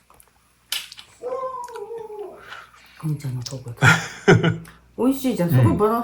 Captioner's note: モンちゃんの鳴き声